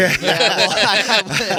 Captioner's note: laughter